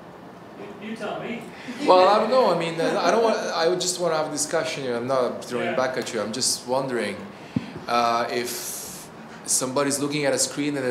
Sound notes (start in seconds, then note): 2.7 laughs